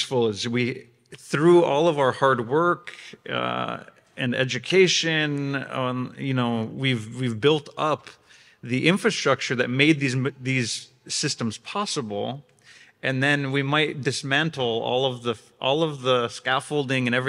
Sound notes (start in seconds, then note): none